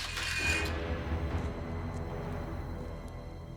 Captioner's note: gun clattering